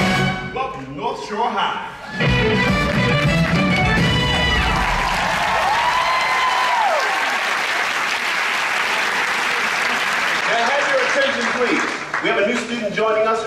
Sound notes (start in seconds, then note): 4.2 audience applauds